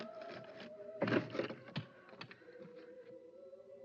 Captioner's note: dull pop sound